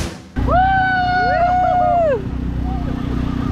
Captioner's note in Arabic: هتاف